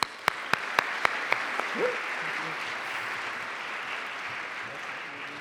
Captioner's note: applause